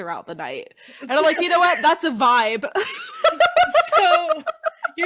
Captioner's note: laughing